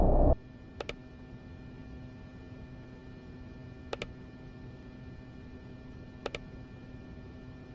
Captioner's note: mouse clicking